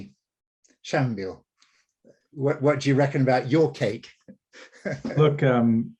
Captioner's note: laughs